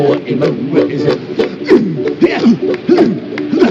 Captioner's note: grunting; clapping, singing in hawaiian